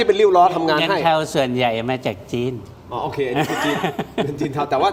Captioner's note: laughter